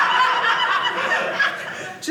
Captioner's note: audience laughing